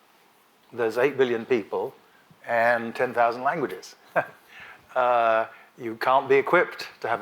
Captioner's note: laughs